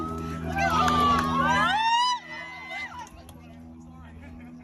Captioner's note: crowd cheering